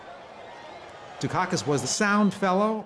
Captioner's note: crowd cheers